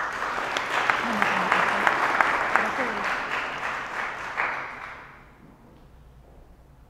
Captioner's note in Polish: oklaski